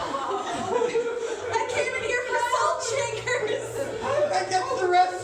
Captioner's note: sobbing